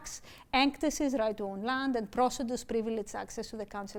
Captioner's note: speaking greek; speaking greek